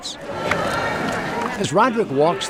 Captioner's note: prosthetics tapping on deck